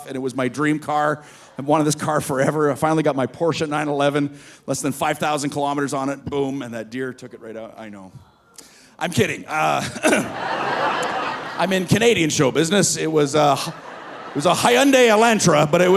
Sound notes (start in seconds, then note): 9.7 audience laughing; 9.8 coughs